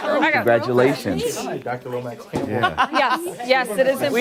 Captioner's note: laughter